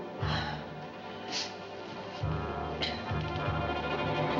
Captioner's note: sighs